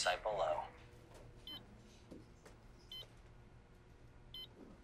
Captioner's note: monitor beeping